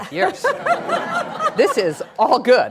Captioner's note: laughing